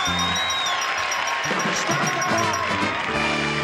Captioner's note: bell dings; audience claps and cheers